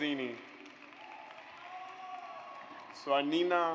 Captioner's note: audience applauds